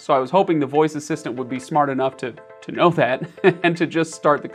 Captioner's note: chuckles